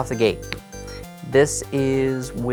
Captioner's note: deck taps